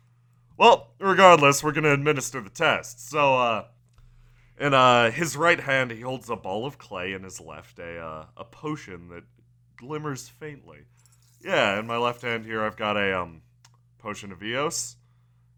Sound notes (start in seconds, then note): 10.7 fizzing